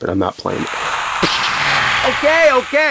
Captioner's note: hisses menacingly